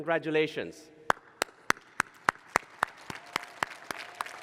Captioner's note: applause